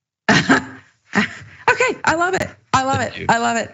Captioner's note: laugh